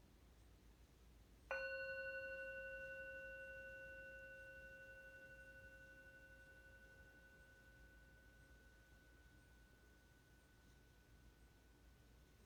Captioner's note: meditation bell rings